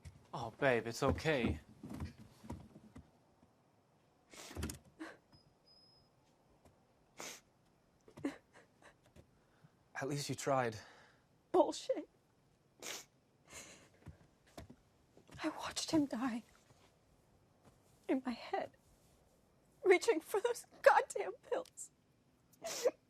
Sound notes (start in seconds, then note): 4.8 Maria crying; 22.6 sobbing